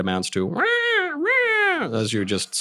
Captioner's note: squawcking noises